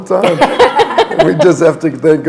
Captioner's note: laughter